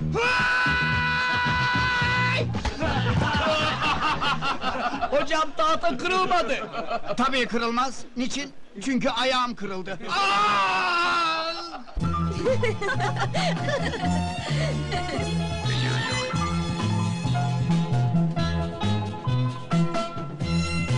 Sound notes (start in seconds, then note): 2.8 heehaws; 11.7 girls' chuckles with the Music